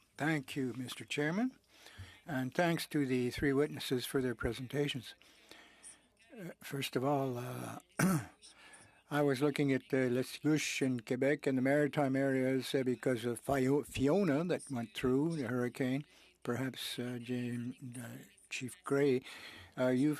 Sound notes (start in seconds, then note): 10.1 speaking French